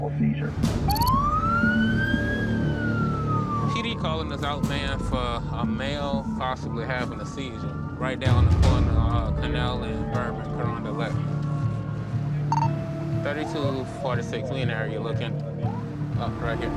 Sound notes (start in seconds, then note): 2.3 siren wails